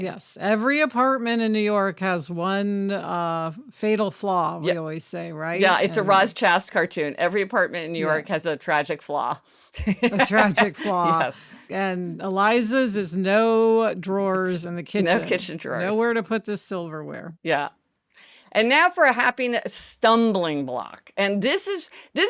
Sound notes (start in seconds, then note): 9.9 laughs